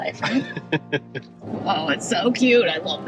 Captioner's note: chuckling